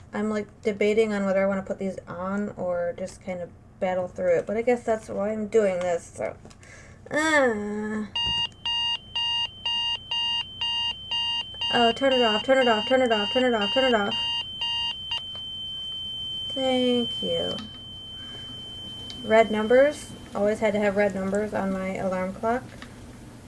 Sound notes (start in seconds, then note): 8.4 alarm clock continues with added high-pitched ringing; 16.6 high pitched ringing continues